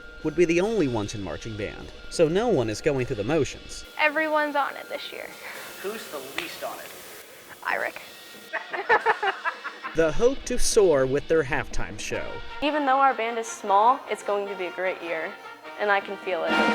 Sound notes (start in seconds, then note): 8.5 laughter